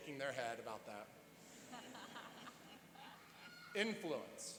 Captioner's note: laughing